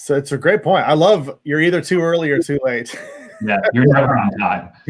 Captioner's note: laughs